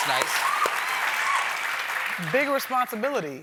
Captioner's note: cheers and applause